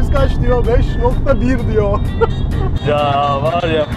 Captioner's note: Satisfied OK laughs